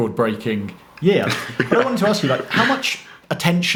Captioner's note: laughs